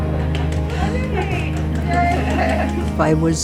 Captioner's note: applause